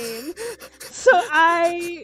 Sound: laughs

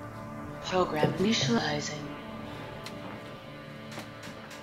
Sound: voiceover

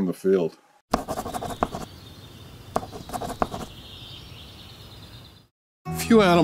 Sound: pen scribbling; birds chirping

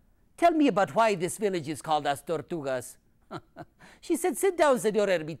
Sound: laughs

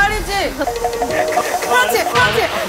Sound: shake shake

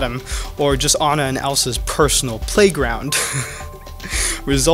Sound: laughs

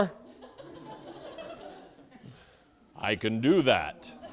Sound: students laughing

